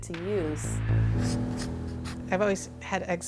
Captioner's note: sound of pencil drawing